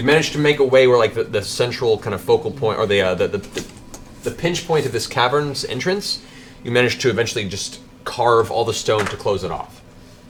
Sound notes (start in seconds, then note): none